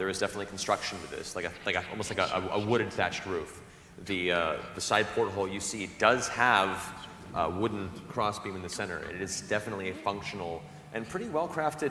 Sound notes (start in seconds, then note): none